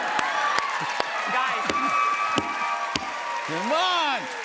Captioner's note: cheers and applause